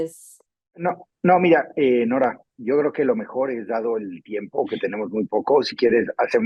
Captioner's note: speaks in foreign language